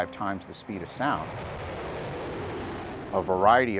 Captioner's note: rocket whooshing